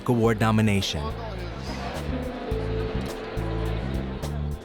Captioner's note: crowd noise